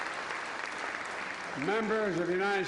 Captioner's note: applause